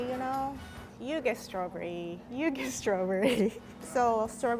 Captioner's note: laughs